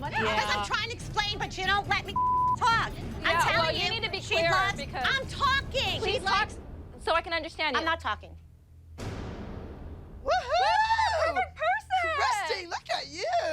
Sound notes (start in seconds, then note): 10.3 cheering